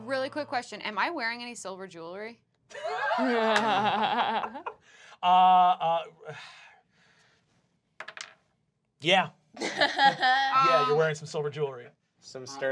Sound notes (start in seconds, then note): 2.7 laughing